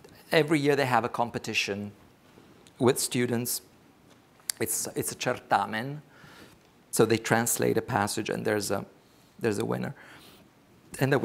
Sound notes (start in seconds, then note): 5.1 speaks foreign language